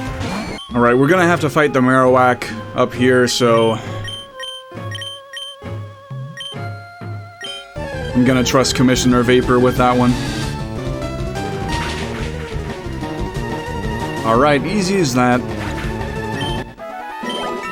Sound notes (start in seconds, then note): none